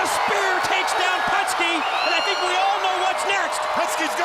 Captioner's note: crowd cheering